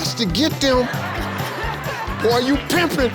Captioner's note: audience laughing